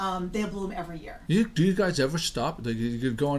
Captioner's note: voiceover